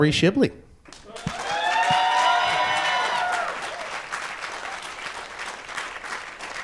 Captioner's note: cheering and applause